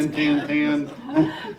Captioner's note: laughing